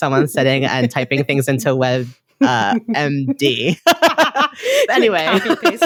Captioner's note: all laugh